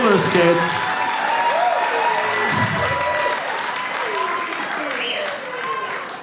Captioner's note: audience continues cheering